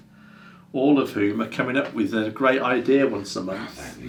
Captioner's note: none